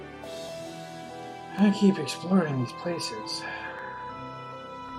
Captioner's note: sighs